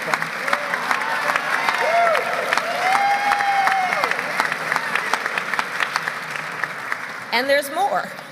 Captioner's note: applause